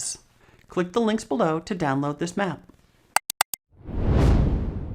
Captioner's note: mouse clicks; frame whooshes